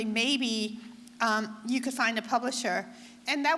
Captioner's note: none